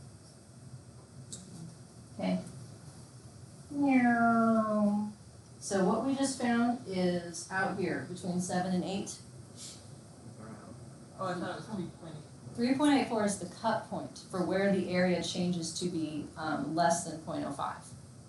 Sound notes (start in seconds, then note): 0.3 student speaks faintly; 3.6 mimics plane diving; 10.5 student speaks faintly